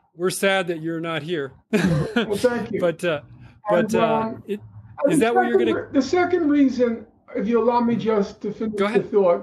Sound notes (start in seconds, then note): 1.7 chuckle